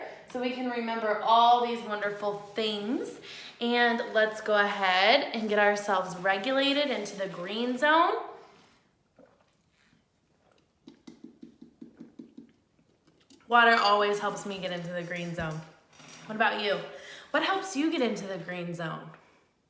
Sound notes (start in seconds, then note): 10.8 taps